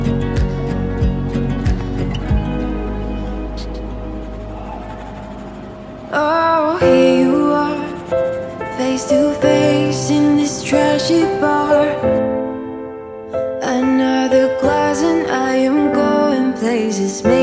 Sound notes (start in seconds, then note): 4.0 pencils scraping on paper